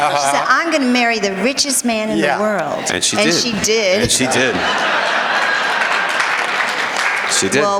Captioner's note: laughter